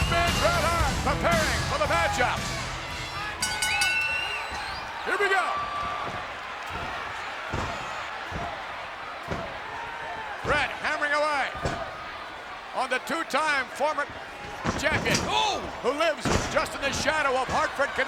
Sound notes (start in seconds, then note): 3.3 bell rings; 5.6 fist thudding